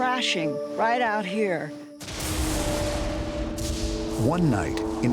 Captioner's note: lightning strikes